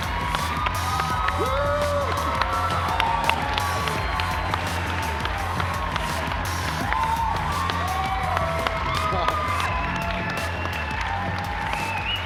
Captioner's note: cheers and applause